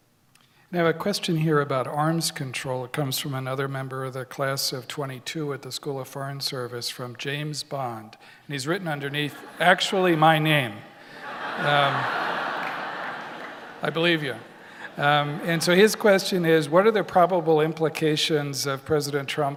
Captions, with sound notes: - I have a question here about arms control. It comes from another member of the Class of '22, at the School of Foreign Service, from James Bond, and he's written underneath, (audience laughter) "Actually my name." (audience laughter) I believe you. And so his question is, "What are the probable implications of President Trump